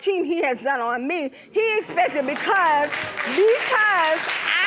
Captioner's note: audience applauds